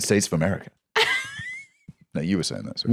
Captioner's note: laughs